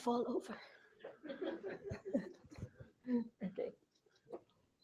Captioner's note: laughter